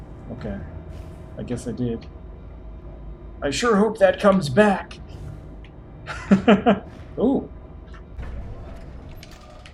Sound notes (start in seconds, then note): 6.0 chuckles